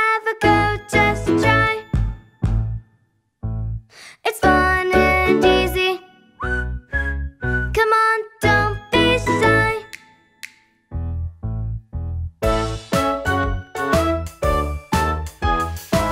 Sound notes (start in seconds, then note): 3.0 stomping; 6.3 whistling; 10.3 finger snapping